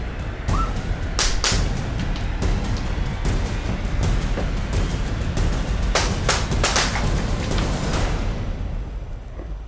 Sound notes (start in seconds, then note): 1.2 gun shots; 5.9 gun shots